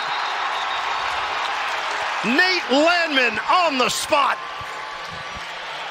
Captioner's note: whistle blowing